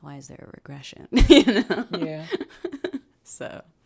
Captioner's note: laughs